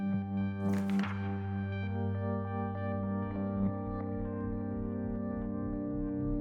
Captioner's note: soft electronic music; pages turning